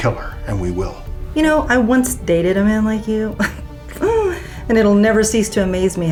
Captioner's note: chuckles